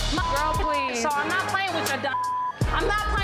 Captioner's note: beeps